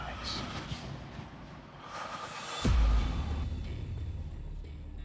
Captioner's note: exhales